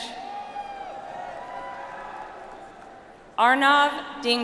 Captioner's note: audience applauds